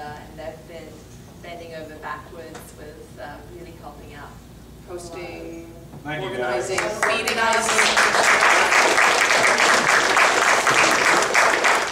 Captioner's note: claps